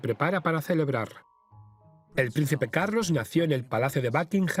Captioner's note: voiceover